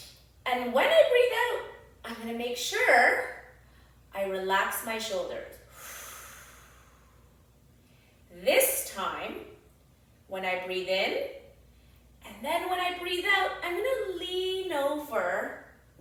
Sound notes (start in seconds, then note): 5.7 exhales deeply